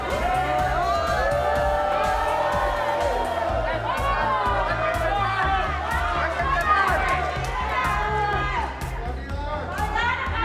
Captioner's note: applause